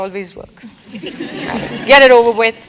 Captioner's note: laugh